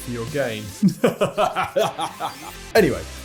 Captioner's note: laughing